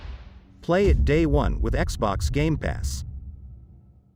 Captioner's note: dramatic sound